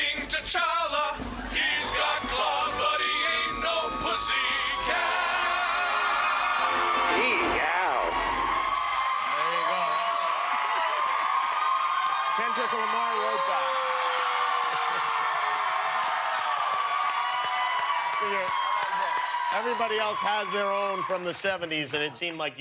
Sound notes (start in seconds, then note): 12.9 cheers and applause